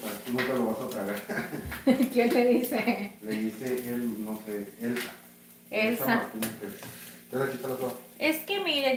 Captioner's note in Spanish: risas